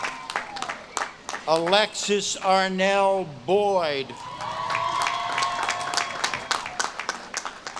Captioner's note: audience claps and cheers